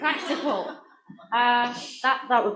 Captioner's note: laughter